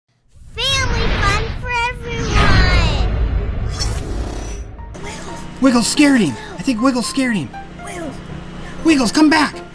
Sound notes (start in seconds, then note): 0.1 voiceover; 5.0 instrumental Christmas music